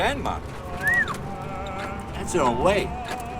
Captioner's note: whistles